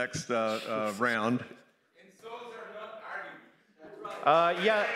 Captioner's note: crowd commenting